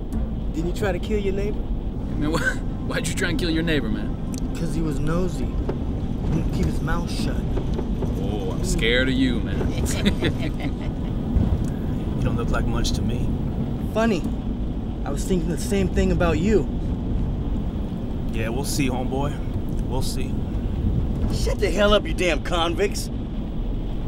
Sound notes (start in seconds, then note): 9.7 laughing